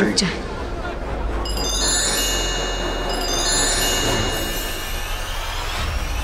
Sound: magical sounds

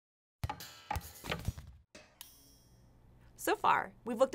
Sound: springing noises

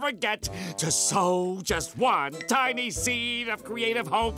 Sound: none

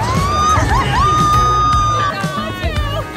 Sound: screams

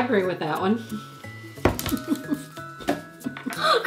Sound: both laughing

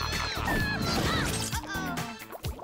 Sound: laughs

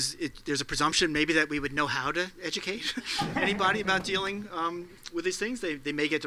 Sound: laugh

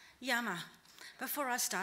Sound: speaking in foreign language

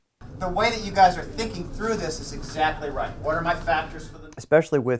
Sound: audio fade

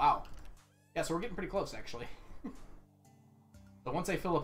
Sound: chuckles

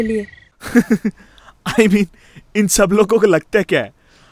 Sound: laughing

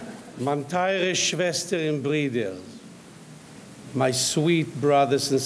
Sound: audience laughing; speaking in foreign language

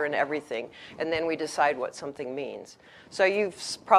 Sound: none

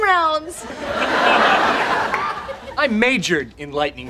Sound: audience laughing

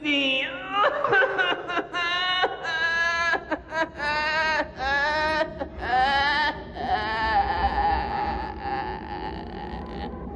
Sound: laughts

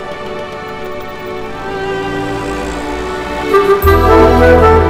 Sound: rumbling of heavy vehicles

